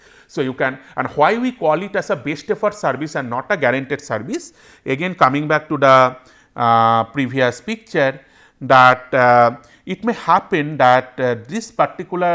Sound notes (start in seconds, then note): 0.0 voice over IP; 3.8 voice over IP